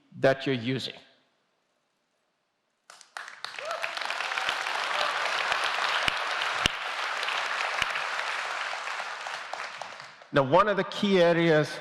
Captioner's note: applause